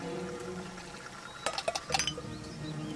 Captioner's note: tapping